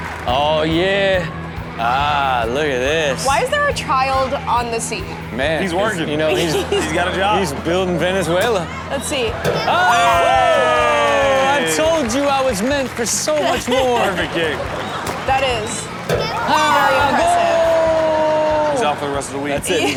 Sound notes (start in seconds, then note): 8.6 hosts cheering; 16.3 Rob cheering